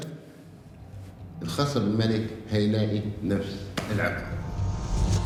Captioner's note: in Arabic